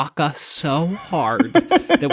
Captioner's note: laughter